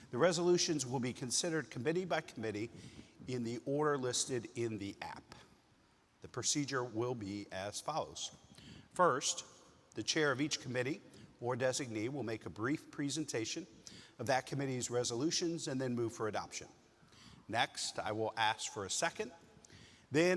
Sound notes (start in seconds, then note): none